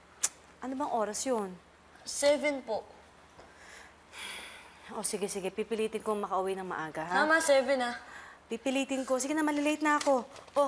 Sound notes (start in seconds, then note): 0.1 clicks tongue; 4.0 sighs